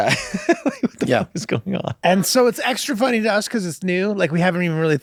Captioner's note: laughs